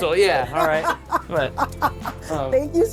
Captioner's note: laughs